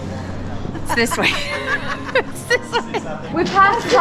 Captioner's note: mom laughs